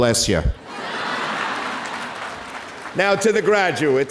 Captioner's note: audience laughing